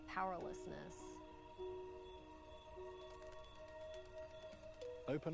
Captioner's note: crickets chirp